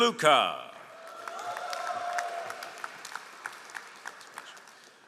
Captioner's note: all applauding